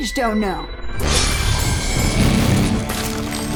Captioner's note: whoosh!